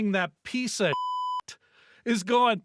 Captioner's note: beep